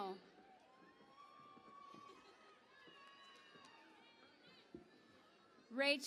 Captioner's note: cheering and Applause